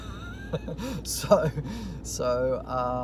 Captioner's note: laughing